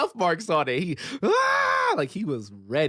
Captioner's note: screams